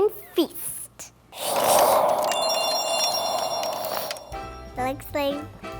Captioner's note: wind blowing; bells ringing